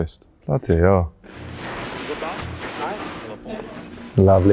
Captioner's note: radio buzzing